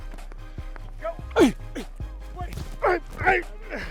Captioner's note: grunting